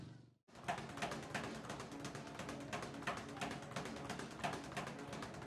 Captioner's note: speed bag rattling